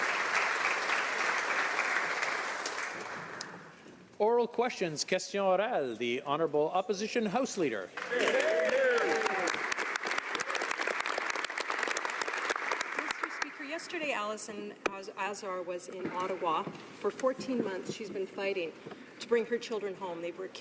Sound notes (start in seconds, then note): 11.7 applause